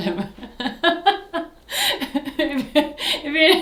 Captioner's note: laughs